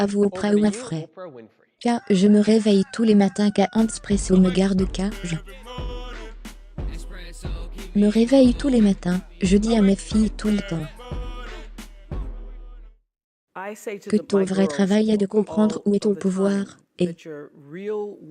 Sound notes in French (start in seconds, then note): 2.0 chant du coq